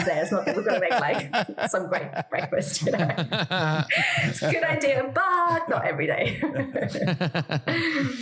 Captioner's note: laugh